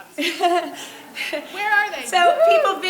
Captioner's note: laughing